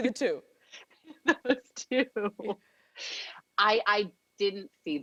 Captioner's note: laughing